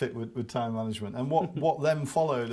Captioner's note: laughs